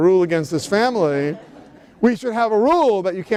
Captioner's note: laughter